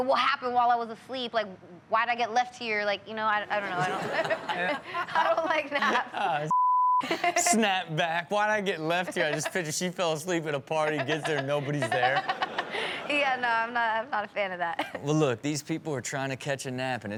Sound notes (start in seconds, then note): 3.6 audience laughs; 6.5 beep; 10.9 Chanel laughs